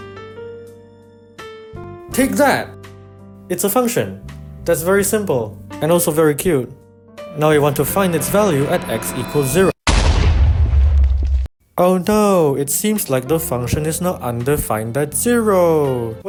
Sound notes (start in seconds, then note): 7.4 ominous buildup; 9.8 explosion